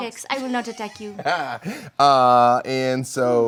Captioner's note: laughing